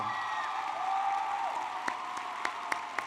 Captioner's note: applause